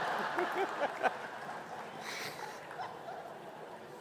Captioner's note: laughing